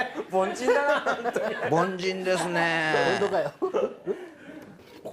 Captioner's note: laughter